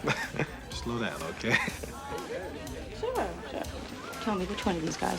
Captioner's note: chuckling